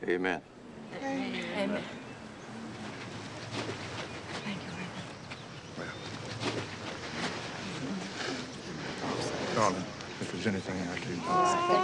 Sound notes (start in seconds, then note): 7.3 people conversing softly